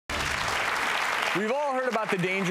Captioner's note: audience applause